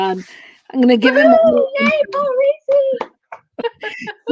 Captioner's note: laughter